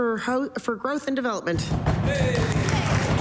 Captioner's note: some Applause